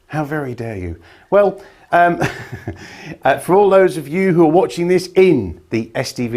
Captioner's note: laughs